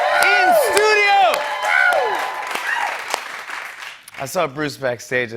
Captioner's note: cheers and applause